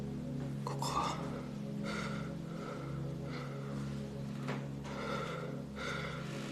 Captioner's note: breathes deeply